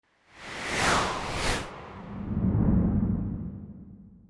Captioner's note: logo whooshing